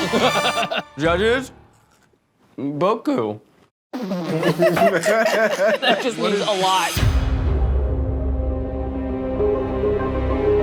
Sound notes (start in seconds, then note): 0.0 laughs; 4.2 all laughing; 6.9 suspenseful music